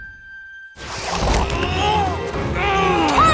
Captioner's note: grunting